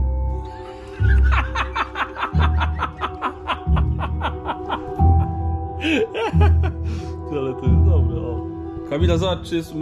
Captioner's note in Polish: śmiech